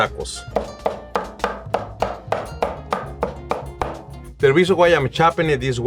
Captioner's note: rhythmic tapping